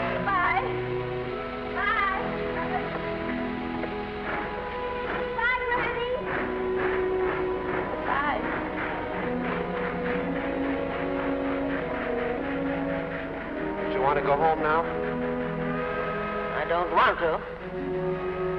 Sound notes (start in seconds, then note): 0.0 train horn toots; 9.0 gentle music; 9.0 train chugging